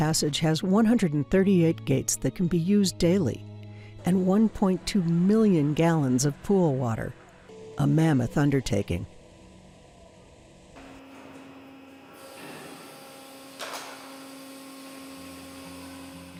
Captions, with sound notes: has 138 gates that can be used daily, and 1.2 million gallons of pool water, a mammoth undertaking. (machine turns on)